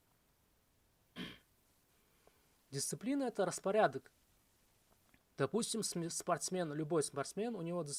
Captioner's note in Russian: откашливается